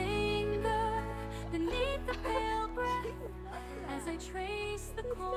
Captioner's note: laughing